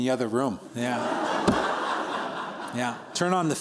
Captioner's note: laughter